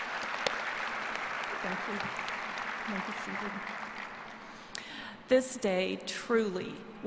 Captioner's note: applause